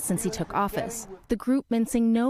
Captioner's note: crowd chanting